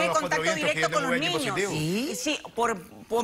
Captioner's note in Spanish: Hablan al unísono